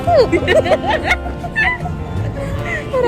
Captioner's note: both laugh